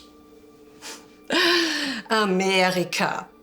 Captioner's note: Fredriech chuckling